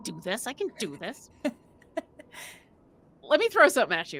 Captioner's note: chuckles